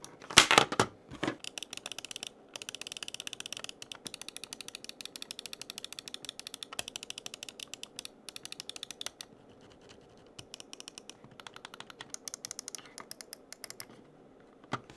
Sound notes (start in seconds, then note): 1.3 mouse clicking